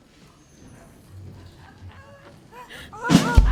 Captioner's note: party hubbub